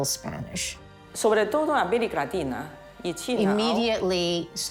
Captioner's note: speaking Spanish